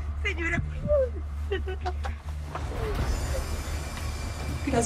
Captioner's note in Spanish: Sollozos